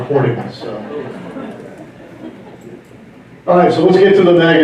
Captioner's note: laughter